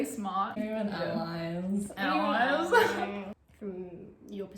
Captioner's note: sarcastic